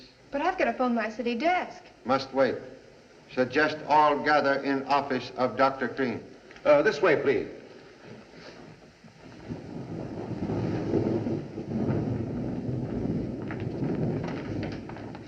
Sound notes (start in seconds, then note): 8.6 thunder Rumbling